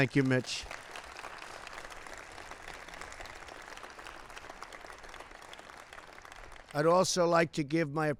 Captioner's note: applause